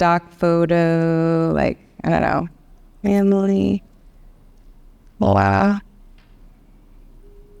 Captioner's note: voice distorts